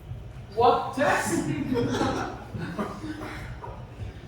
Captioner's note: laughter